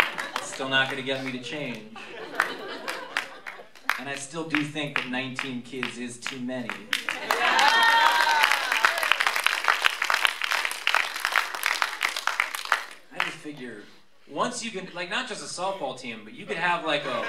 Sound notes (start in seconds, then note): 6.6 applause